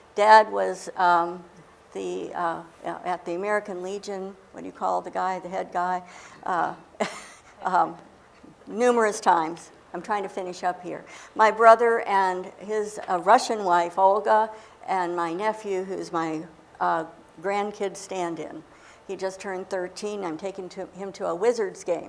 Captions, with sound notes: Dad was, at the American Legion -- What do you call the guy, the head guy? -- [laughs] numerous times. I'm trying to finish up here. My brother and his Russian wife, Olga; and my nephew, who's my grandkid stand-in. He just turned 13. I'm taking him to a Wizards game